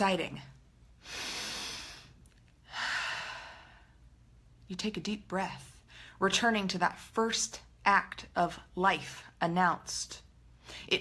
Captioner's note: inhale, exhale